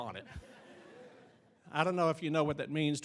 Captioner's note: audience laughing